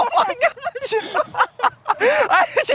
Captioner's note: laughs